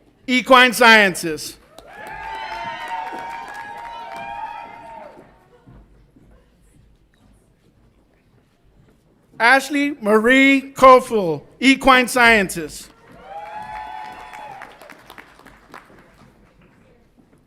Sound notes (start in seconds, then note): 1.6 audience applauds and cheers; 12.9 audience applauds and cheers